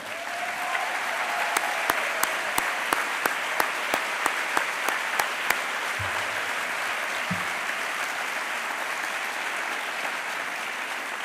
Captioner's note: applause